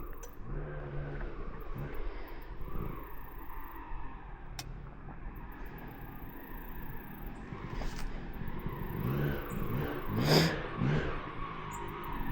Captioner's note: engine revving